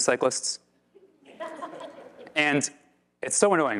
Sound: audience laugh

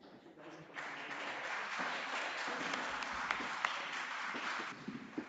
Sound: audience applauding

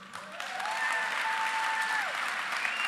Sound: applause

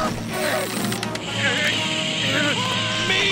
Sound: dolphin clicking; grunting

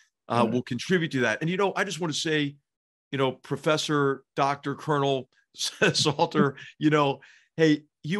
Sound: laugh

